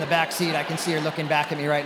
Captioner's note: attendees laughing